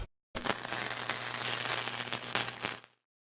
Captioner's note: sfx: welding